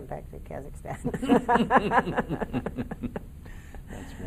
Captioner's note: laughing in unison